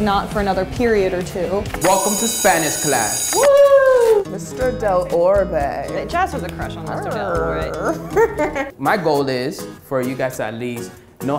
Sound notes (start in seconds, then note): 1.8 bell ringing; 3.3 screaming